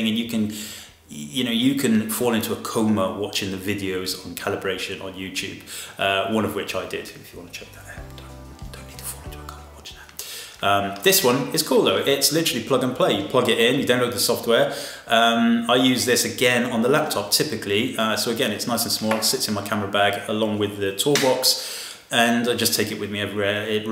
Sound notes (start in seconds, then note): 9.5 whispering